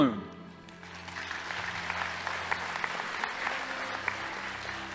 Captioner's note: audience applauding